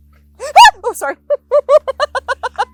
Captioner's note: screams; laughs